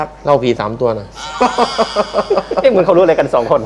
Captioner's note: laughter